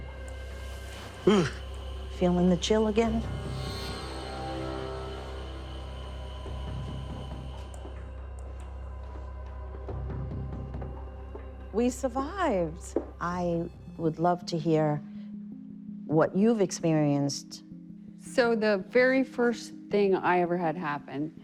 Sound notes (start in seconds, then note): 1.2 Terry shuddering; 3.7 suspenseful music